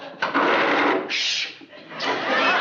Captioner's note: chair scrapes